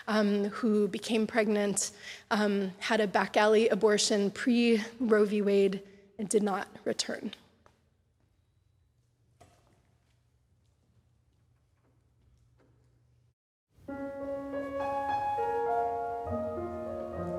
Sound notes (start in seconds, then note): 7.7 silence; 13.8 gentle piano melody